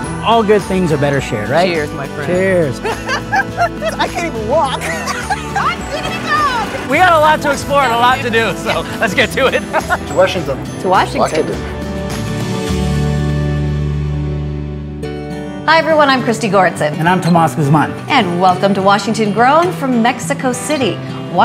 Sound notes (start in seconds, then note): 2.9 laughs